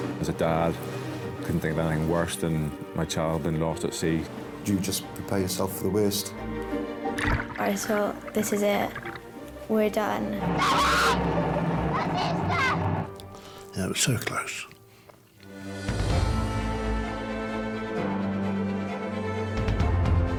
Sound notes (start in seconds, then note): 10.4 kayaker shrieks; 15.6 dramatic music